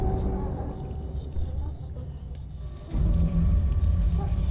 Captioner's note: blood dripping